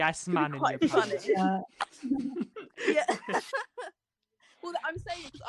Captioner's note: laughter